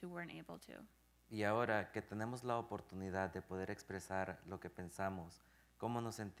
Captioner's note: speaking in Spanish